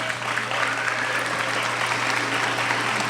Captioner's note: applauding